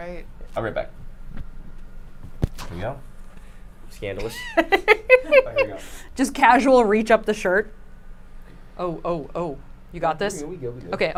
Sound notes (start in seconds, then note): 4.2 group giggles